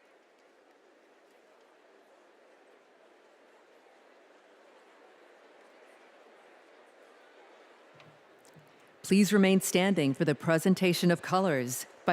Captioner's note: applause